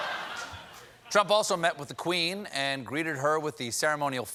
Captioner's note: laughter